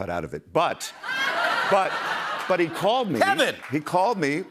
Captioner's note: laughter